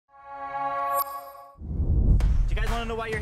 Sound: logo dings

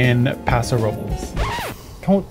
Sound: record scratch

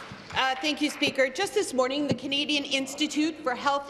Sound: applause

